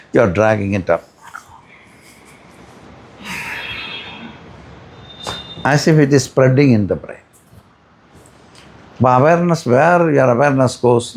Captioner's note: sighs